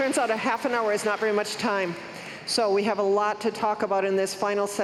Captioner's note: cheers and applause